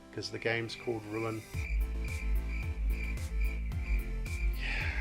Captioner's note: crickets